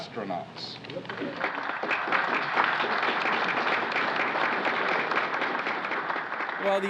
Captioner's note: applause